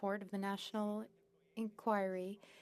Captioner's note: speaking French